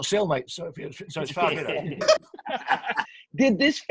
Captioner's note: group laughs